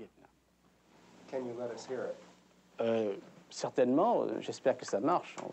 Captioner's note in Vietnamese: Tiếng Pháp